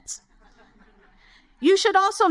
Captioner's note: audience chuckle